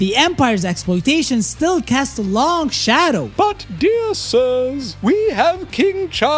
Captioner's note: pompous